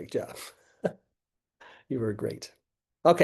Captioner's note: laughing